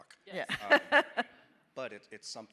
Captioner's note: laughing